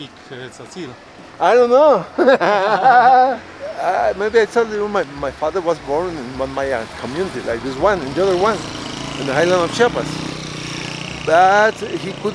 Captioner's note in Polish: śmiech